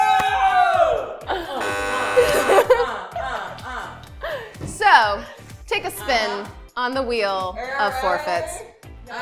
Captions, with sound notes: (buzzer) - So, take a spin on the wheel of forfeits.